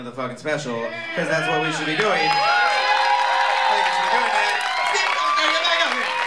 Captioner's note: cheers